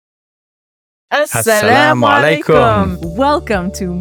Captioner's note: both speak Arabic